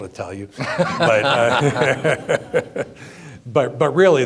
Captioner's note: laughing